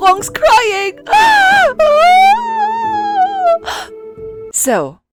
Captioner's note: wails; gasp